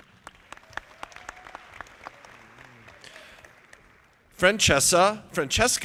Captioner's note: audience applauding